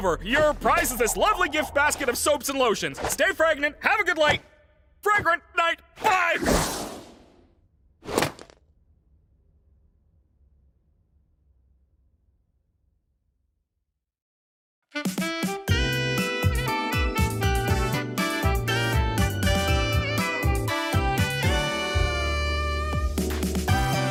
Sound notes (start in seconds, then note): 6.4 swoosh!; 8.1 basket thuds; 15.0 upbeat jazzy music plays